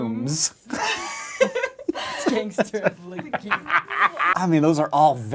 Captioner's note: laughing